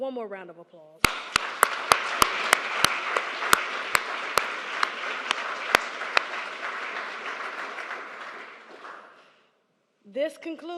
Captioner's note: applause